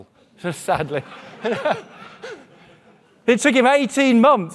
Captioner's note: audience laughing